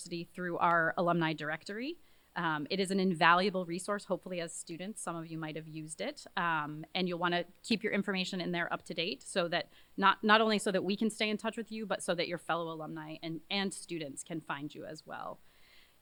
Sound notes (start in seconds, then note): none